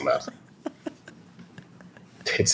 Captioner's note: laughter